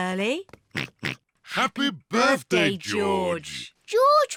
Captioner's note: oinks